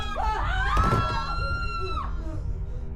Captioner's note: crack; body drop